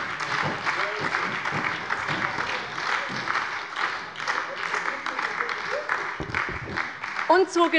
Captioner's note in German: Beifall bei der SPD